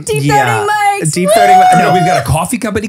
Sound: cheering

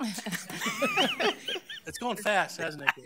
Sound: all laughing

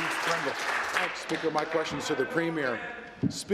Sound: applause

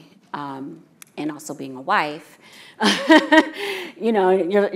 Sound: laughing

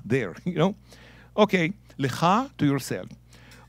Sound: speaking in Hebrew

